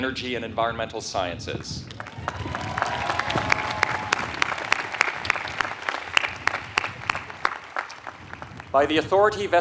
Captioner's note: applause